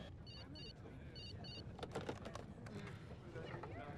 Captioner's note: telephone beeps